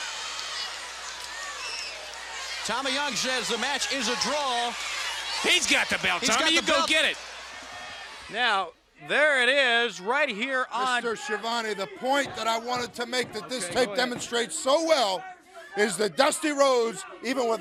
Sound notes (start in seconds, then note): 0.9 crowd chatter